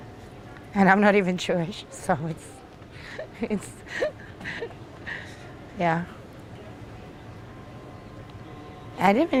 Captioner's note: laughing